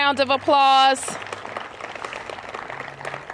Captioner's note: applause